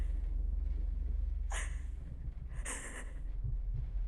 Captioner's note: Catherine crying